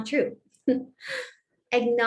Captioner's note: laughter